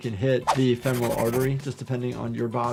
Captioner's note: pencil scratches